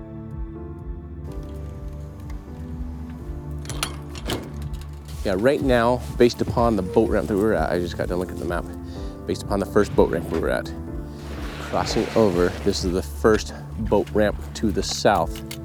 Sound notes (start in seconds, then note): 0.3 somber piano music; 4.1 latch clinking